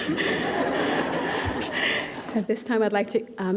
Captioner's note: laughter